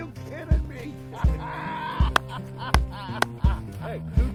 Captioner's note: laughing